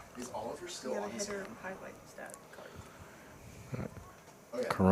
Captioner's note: indistinct chatter